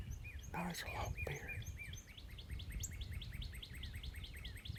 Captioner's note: whispering; birds tweeting